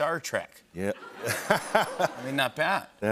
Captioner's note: laughter